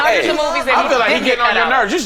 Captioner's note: all chattering